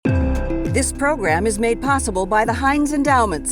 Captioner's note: voiceover